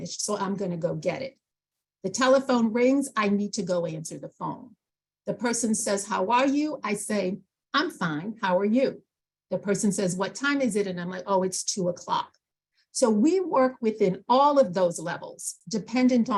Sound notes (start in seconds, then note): none